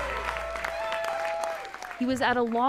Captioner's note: cheering